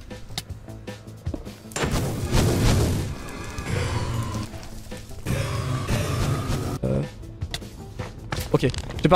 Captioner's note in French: bruits de boule de feu et de blaze + musique rythmée en fond